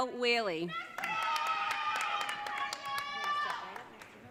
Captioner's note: audience cheering